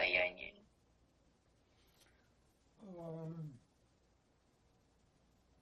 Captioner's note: pause 7 seconds